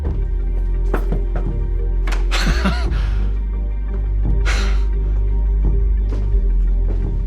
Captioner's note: door tapping; Chuck laughing